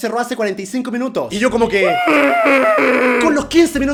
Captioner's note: annoyed dramatization